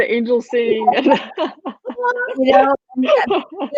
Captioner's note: women laughing